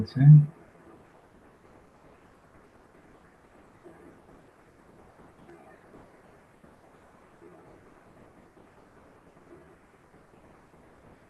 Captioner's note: pause